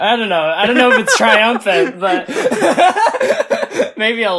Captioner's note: laughs